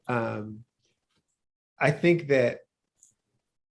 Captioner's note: laughs